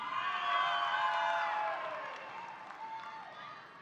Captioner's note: audience applauding